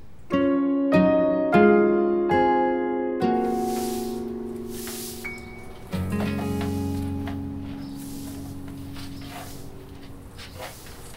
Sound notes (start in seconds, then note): 0.4 gentle music; 3.4 swishing sounds; 6.9 clunking